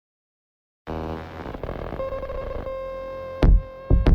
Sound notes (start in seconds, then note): 0.9 static followed by beeps